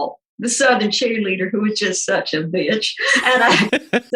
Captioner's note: laughing